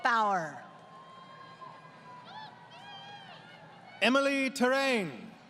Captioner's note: crowd Cheering